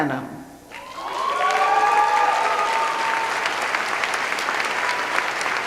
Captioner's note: cheering